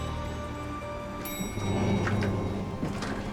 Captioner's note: elevator dings